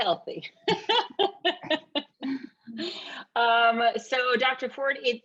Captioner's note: laughing